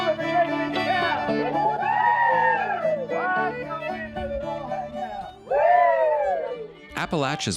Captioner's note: crowd cheering